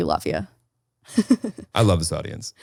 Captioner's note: chuckling